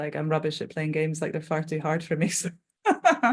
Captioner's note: laughing